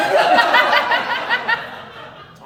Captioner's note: audience Laughing